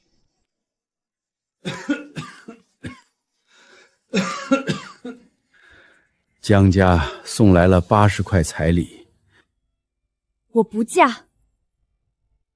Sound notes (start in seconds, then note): 1.7 cough, cough, cough